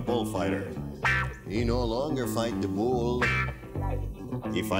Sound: in Hispanic accent

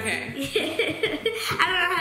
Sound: laughing

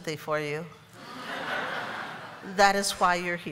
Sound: laughter

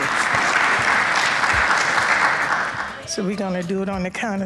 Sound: audience applauds

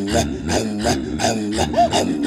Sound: laughing

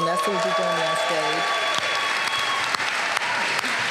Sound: applause

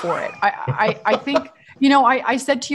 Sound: laughing

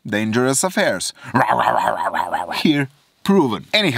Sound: roaring

